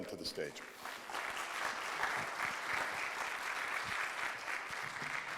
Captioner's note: audience applauding